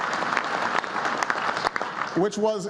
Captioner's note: applause